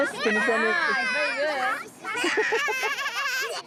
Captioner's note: children imitate chickens; laughs